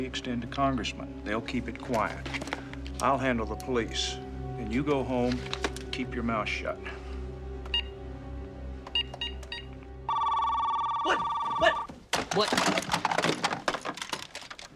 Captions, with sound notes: It's a privilege they extend to congressmen. They'll keep it quiet. I'll handle the police and you go home. Keep your mouth shut. [Beeping] - [Ringing] - What? What? What?